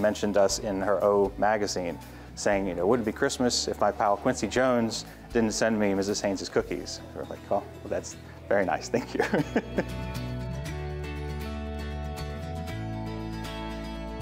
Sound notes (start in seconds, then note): 8.9 laughs; 10.4 guitar music